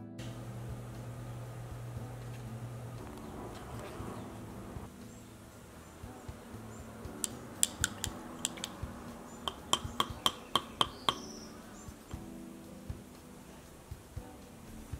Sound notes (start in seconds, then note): 7.4 painting tools tapping